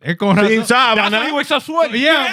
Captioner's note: speaking Spanish